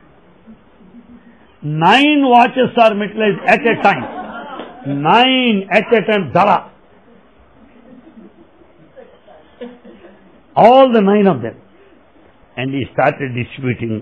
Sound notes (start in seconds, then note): 3.4 laughter